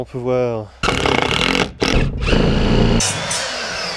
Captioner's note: hammer drilling sound delight